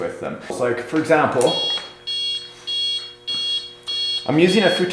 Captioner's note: beeping